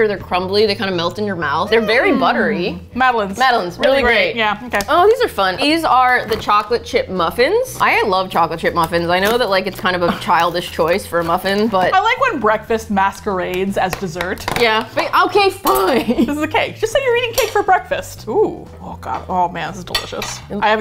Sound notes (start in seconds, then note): 11.4 laughs; 13.9 with exasperation; 15.3 laughs